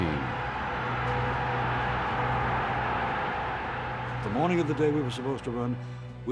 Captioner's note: applause